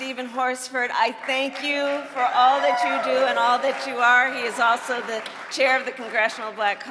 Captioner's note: cheering and applause